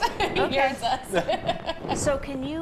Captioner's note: laughs